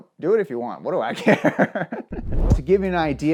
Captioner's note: laughs